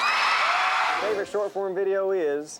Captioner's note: audience screams and cheers